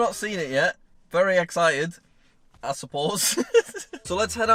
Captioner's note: laughs